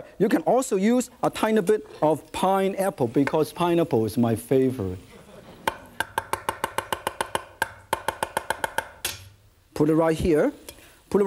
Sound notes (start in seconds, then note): 5.2 audience chuckles; 6.3 fast chopping